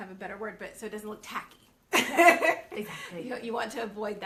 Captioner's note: both laughing